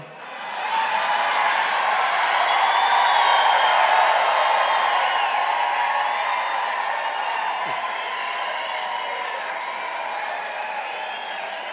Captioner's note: applause